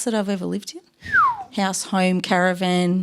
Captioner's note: whistles